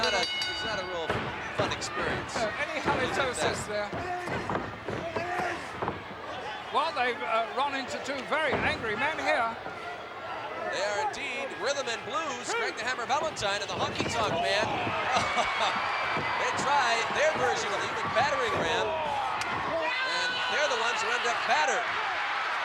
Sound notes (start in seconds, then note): 15.1 chuckling